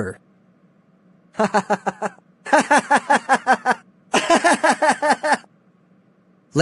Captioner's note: laughs wickedly